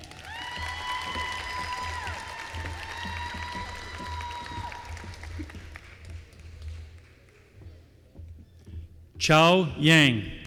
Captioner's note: applause